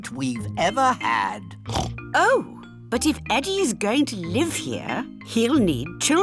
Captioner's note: oinks